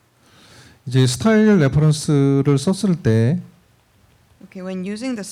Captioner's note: speaking korean